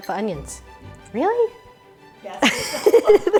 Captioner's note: laughs